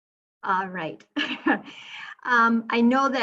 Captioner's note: chuckling